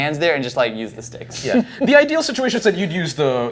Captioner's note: chuckling